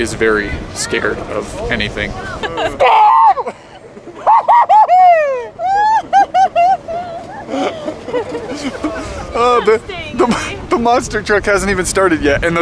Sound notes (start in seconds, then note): 2.2 laughing; 4.3 spooky laughing; 5.8 laughing